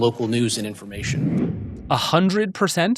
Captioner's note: screen whooshing